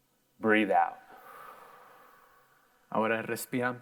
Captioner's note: air whooshing; in foreign language